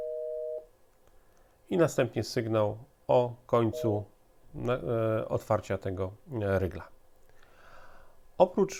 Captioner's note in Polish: krótki sygnał